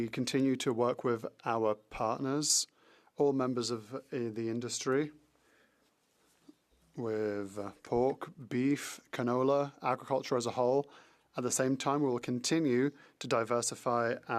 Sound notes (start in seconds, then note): 3.4 speaking French